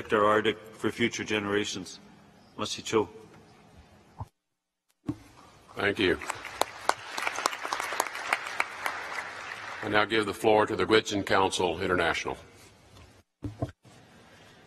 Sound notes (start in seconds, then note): 2.8 speaks in a foreign language; 5.9 applause